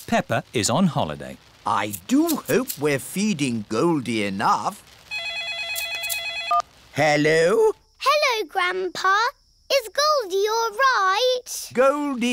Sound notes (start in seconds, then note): 5.1 phone rings